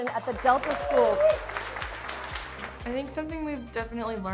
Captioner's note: contestants cheering